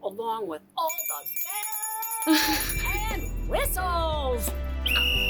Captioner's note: bells ringing; blows whistle